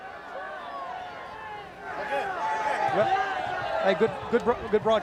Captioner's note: crowd chatter